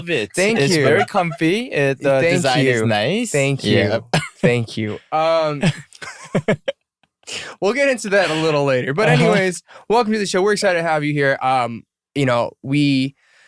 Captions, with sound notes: Thank you. It's very comfy, and uh... Thank you. The design is nice. Thank you. Yup. Thank you. [Laughter] We'll get into that a little later. But anyways... Welcome to the show, we're excited to have you here.. Um, you know, we..